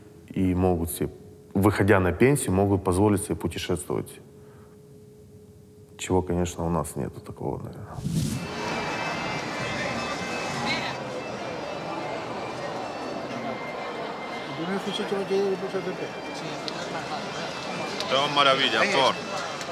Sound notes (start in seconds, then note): 8.7 voices, music in the distance; 17.8 man speaks Spanish